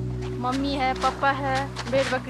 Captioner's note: foreign language spoken